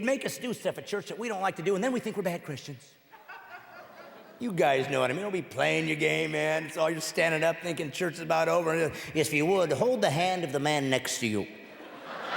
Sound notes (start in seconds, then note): 6.1 laughing